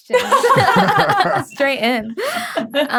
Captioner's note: panelists laughing